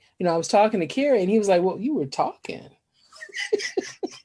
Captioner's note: laughing